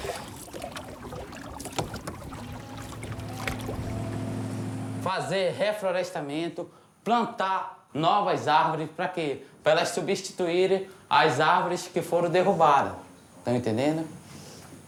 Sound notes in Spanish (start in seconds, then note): 4.7 <i>habla en portugués